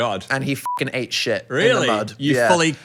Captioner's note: beep